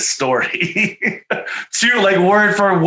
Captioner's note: laughs happily